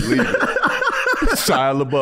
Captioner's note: laughing